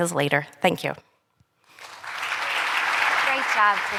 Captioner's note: applause